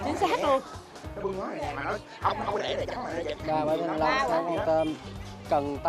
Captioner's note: chatter